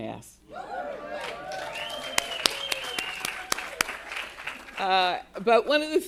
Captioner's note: attendees cheering and applauding